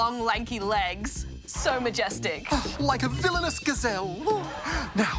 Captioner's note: sighs